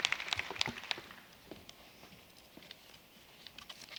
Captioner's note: applause